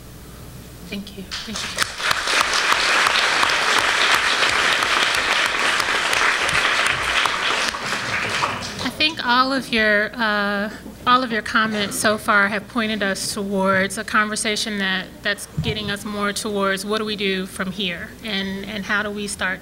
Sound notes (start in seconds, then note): 1.3 applause